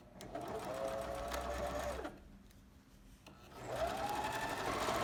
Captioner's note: sewing machine hums